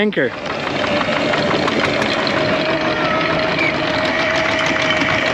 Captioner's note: sound of anchor raising